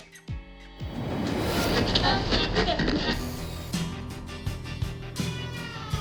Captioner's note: radio switches frequencies